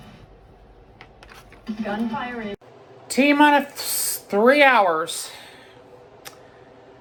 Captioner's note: on TV